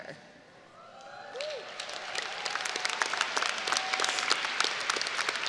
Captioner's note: audience cheering and applauding